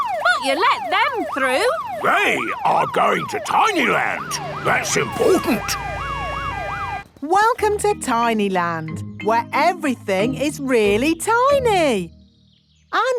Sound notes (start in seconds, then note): 6.0 sirens wailing